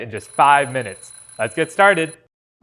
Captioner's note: alarm clock rings